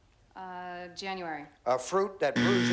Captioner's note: buzzer